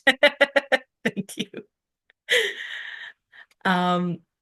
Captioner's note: laughs